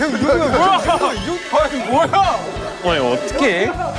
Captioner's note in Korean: 술렁웅성술렁웅성술렁웅성